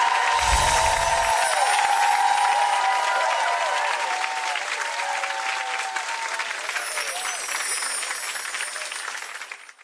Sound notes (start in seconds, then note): 0.2 audience applauds; 0.2 chime; 6.5 chime